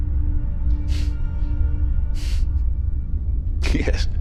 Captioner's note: chuckles